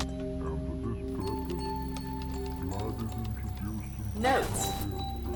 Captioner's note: keyboard clicking